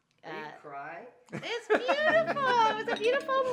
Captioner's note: laughing